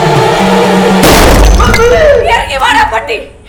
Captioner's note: gunshot